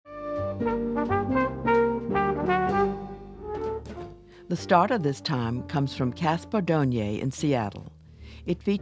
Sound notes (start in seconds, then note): 0.2 jazzy trumpet jingle; 4.3 voiceover